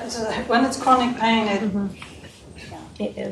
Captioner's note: chuckles